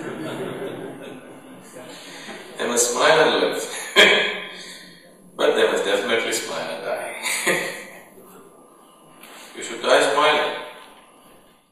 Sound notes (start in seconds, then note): 0.0 laughter; 4.5 laughs; 7.0 laughs